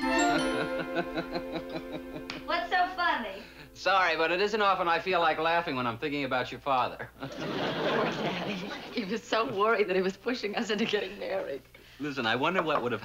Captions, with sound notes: (laughing) What's so funny? Sorry, but it isn't often I feel like laughing when I'm thinking about your father. (chuckles) Poor Daddy, he was so worried that he was pushing us into getting married. Listen, I wonder what would have happened